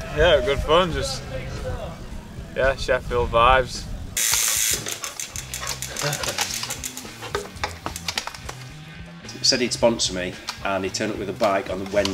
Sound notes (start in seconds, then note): 4.2 mechanical sound